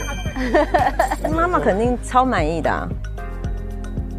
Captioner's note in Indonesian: Tertawa